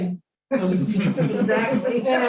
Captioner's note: laughter